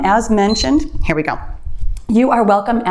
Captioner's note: timer beeps